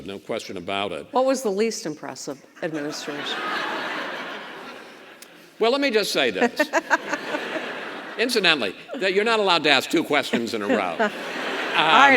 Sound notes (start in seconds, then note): 2.6 audience laughs; 6.4 governor laughs